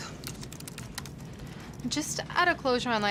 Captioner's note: typing sounds